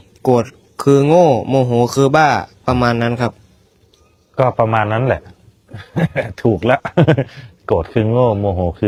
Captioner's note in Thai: เสียงหัวเราะ